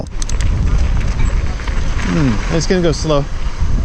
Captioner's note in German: none